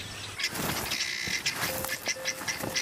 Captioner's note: chirping